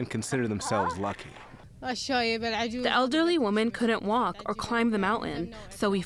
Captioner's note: through translator